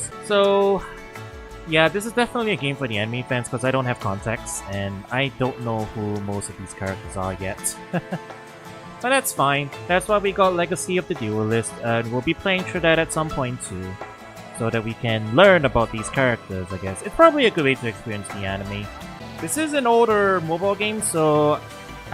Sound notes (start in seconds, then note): 7.7 laughs